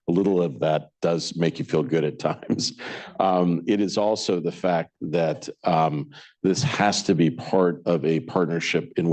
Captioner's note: laughs